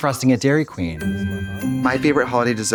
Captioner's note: festive chime